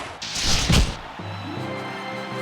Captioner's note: cheers and applause